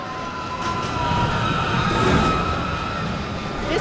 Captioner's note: cheering